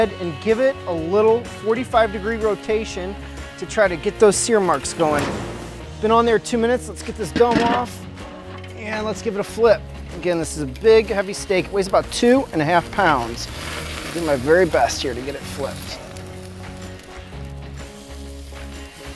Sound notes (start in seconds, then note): 4.8 whooshing; 16.4 rock music